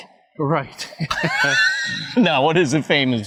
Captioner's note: both chuckling